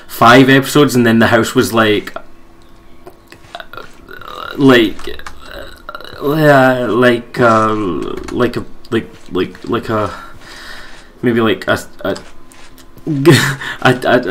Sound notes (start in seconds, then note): 6.1 thinking Noises